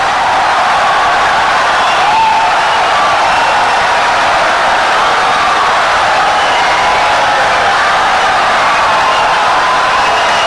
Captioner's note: wild applause and cheering for 17 seconds